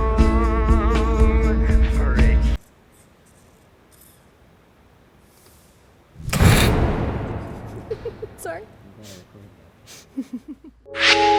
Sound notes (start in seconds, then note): 7.6 laughs